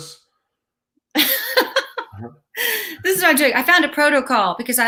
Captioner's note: laughs